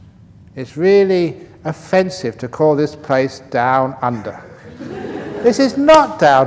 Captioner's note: laughter